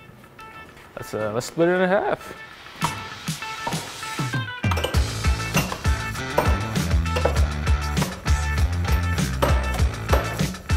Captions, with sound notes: Let's split it in half. (upbeat music) (hammers clanking)